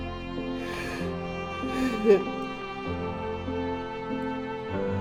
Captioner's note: sad piano music continues to play; Mr. Northcutt sobbing